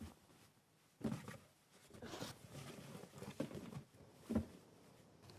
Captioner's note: box shuffling